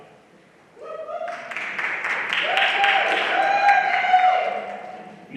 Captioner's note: everyone applauding